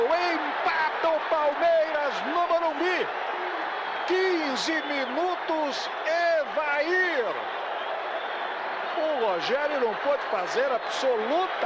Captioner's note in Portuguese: aplausos